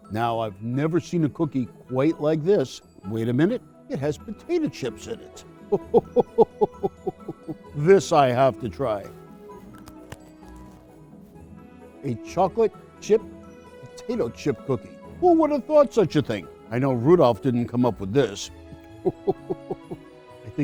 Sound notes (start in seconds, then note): 5.7 chuckles; 9.4 light cheerful music; 18.9 chuckles